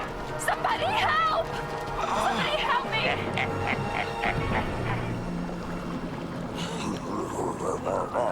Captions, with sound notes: - Somebody help! Somebody help me! - (cackling) - (chortling)